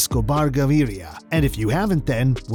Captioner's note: spoken in an accent